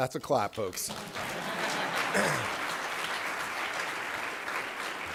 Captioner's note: applause